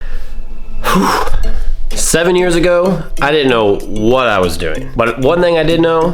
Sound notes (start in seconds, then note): 0.8 sighs